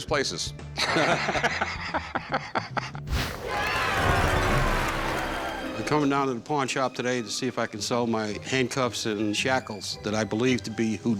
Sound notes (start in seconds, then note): 0.7 laughter; 3.3 cheering